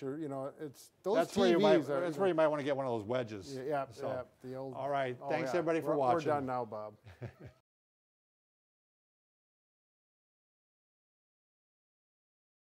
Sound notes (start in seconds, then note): 7.0 chuckling